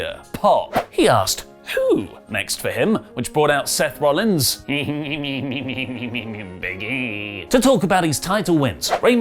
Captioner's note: laugh